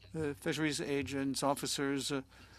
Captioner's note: speaking French